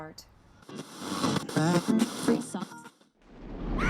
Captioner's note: radio static